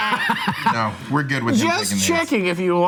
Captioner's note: laughing